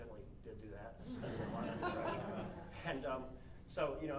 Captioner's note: audience laughing lightly